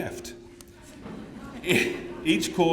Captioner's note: laughter